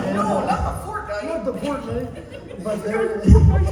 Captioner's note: imitating an old person; imitating an old man